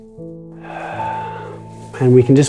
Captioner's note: exhales